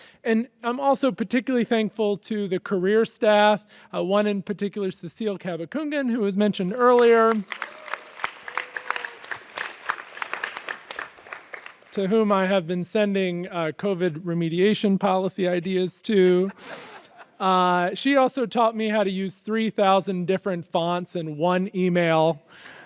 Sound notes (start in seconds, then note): 6.9 audience applauds; 16.5 audience laughs